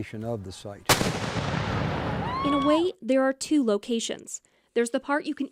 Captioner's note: canon fire